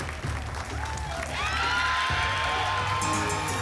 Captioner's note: applause and cheering; pinging sounds